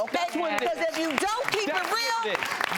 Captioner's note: audience claps